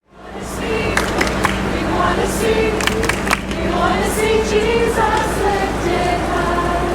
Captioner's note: clap clap, clap; clap, clap, clap